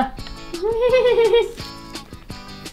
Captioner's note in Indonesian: tertawa